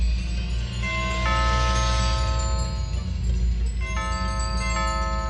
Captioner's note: door bell ringing